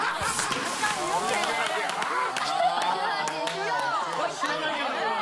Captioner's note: loud sneeze that can beat the heat wave